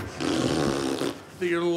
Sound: blows a raspberry

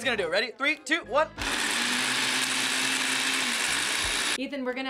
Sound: blender whirring

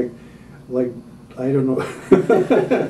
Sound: laughter

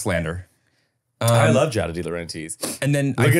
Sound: laughing

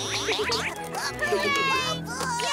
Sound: chuckles

